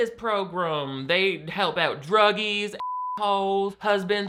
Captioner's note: beep